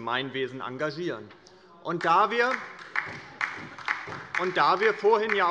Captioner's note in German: Beifall bei der LINKEN